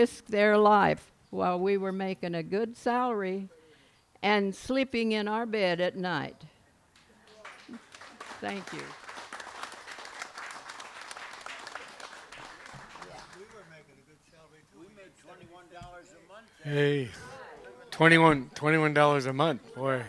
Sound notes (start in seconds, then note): 9.9 applause